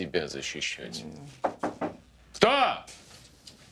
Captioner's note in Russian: стуки в дверь